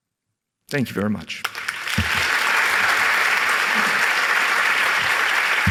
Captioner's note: applause